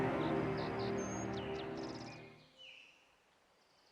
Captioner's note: birds chirping